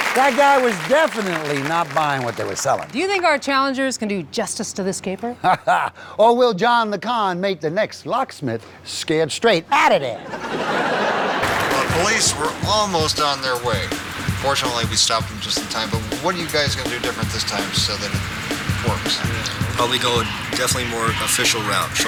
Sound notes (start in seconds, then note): 5.4 laughs; 10.1 laughter